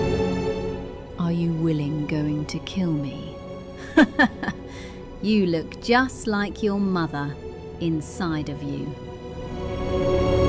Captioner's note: laughs